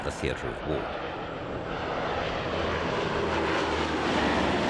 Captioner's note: plane roaring